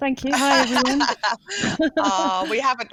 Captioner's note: laughter